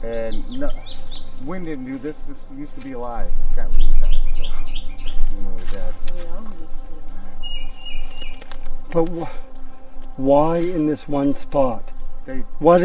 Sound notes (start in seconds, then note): 3.9 birds chirping; 6.0 speaking faintly